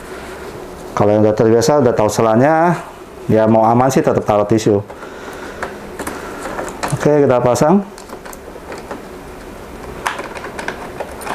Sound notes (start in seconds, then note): 6.4 installing damper sound